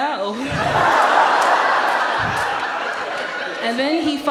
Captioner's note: audience laughs